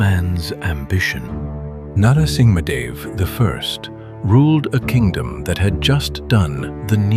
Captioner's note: thoughtful